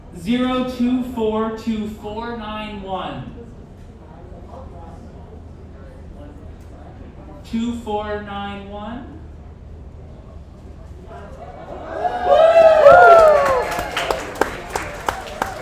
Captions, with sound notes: 0242491. 2491? (audience applauds)